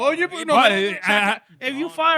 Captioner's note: speaking In Foreign Language